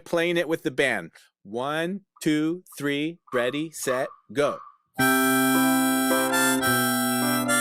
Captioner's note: metronome clicking